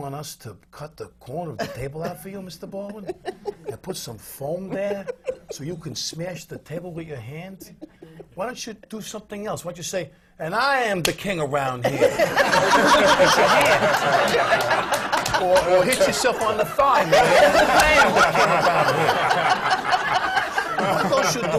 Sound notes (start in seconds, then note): 10.5 smacks his hands together; 15.5 laughter; 21.0 laughter